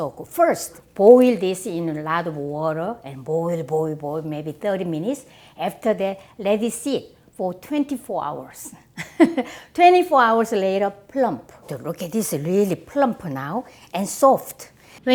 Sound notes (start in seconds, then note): 8.9 chuckles